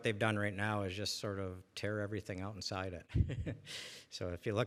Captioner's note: laughs